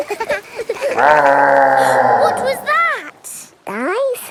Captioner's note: laughing; gasps; growling